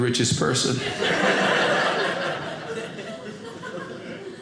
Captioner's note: audience laughing